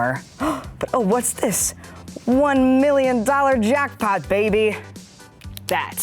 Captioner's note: gasps